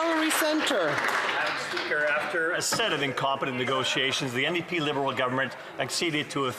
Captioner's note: some Applause